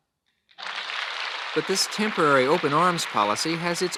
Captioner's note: archival news audio